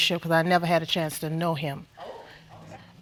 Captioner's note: audience murmuring